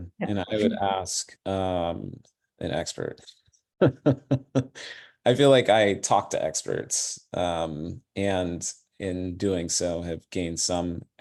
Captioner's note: laughter